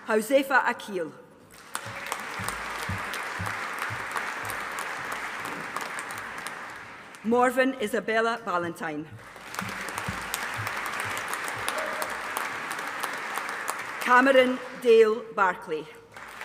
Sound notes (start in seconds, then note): 1.5 audience applauding; 9.2 audience applauding